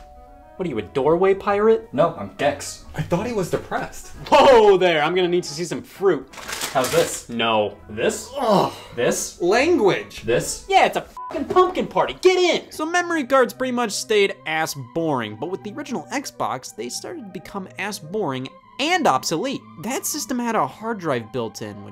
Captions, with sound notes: - What are you, a doorway pirate? - No, I'm Dex. - I thought he was depressed. - Whoa, there. I'm going to need to see some fruit. - How's this? - No. - This? - (grunting) - This? - Language. - This? - Yeah, it's a (beep) pumpkin party. Get in. So memory cards pretty much stayed ass boring, but with the original Xbox, they started to become ass-boring and obsolete. That system had a hard drive built-in,